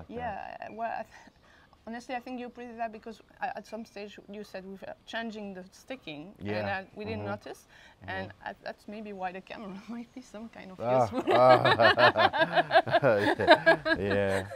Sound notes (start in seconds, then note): 11.0 laughters